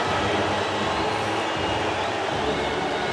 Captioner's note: crowd boos